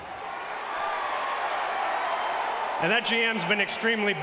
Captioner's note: crowd exclaiming